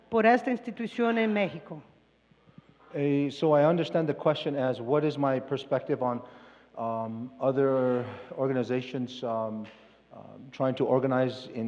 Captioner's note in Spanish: Expositor habla en inglés